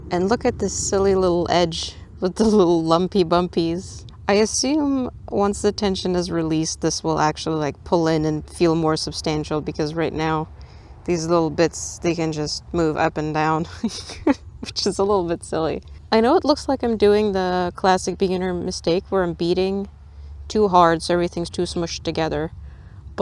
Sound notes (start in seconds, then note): 13.8 laughs